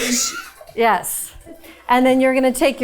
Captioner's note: chuckling; crew member chuckling